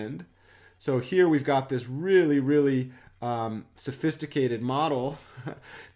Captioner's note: chuckles